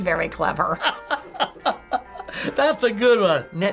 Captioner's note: laughing